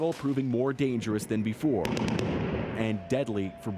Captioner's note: gunshots